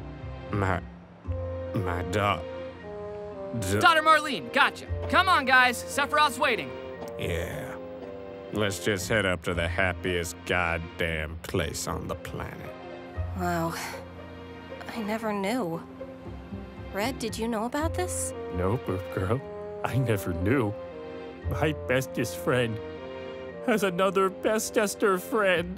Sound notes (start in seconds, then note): 7.6 somber